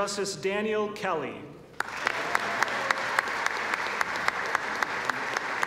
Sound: applause

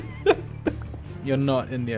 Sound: laughing

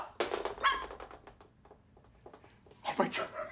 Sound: dog barks in the distance

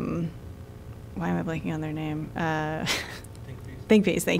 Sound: laughter

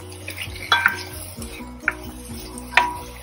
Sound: sound of stir-frying

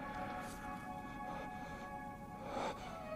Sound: exhales

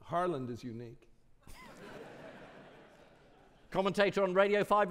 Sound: audience laughing

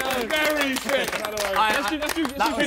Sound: Sidemen applauding; laughing

